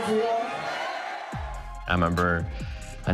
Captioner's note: crowd cheers